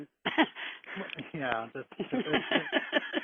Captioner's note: laughing